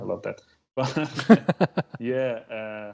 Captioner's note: laughter